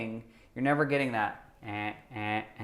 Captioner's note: makes robotic sound